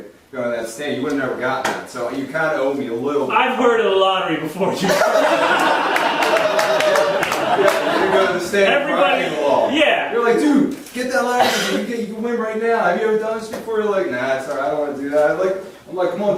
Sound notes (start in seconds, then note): 4.8 audience laughing